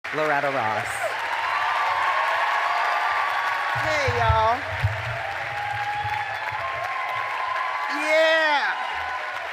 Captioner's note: applause